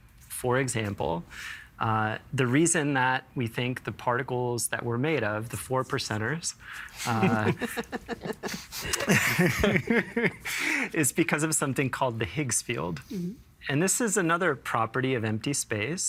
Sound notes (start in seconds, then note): 7.0 all chuckling; 8.5 laughing